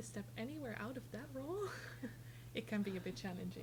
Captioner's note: chuckles